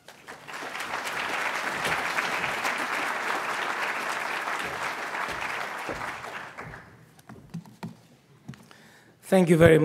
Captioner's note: audience applauds